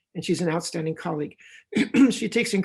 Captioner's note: clears throat